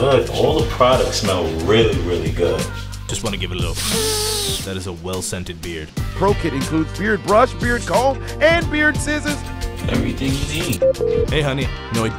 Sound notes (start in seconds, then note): 4.0 character sniffing; 10.8 phone beeping